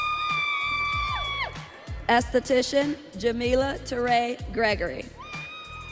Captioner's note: audience cheering